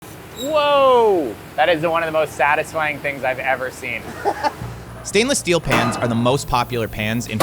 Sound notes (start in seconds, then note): 4.5 laughs